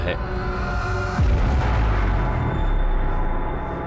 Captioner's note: explosion blasts